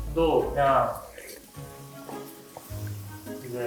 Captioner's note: slurp